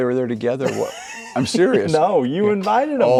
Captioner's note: laughing